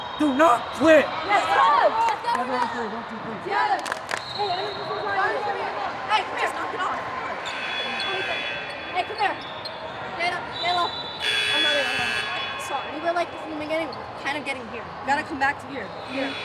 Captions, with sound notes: Do not quit. (cheering) (whistle blowing) - Hey, come here. Stand up, stand up. (buzzer) - Sorry, we're like, this is the beginning. - Kind of getting here. - We gotta come back to here.